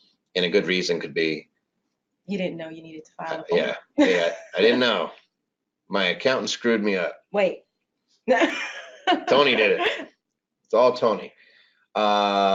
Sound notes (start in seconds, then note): 4.0 laughs; 8.3 laughs